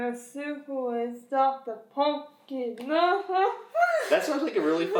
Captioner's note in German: lacht